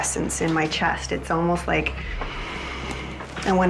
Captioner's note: exhales; inhales loudly